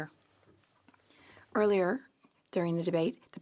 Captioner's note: speaking French